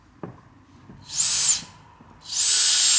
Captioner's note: drilling noises